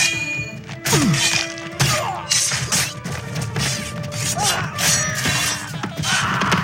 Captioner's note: men screaming